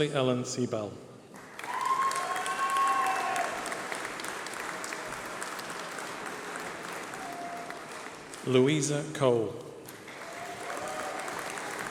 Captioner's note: applause